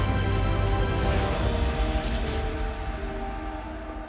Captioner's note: door opening, locking into place